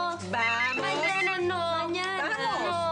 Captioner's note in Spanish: Suena un celular